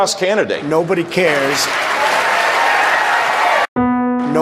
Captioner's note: cheers